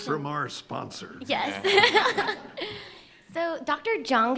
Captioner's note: laughing